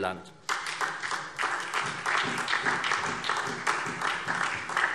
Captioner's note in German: Beifall SPD